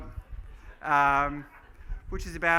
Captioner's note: laughing